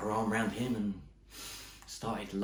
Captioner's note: inhales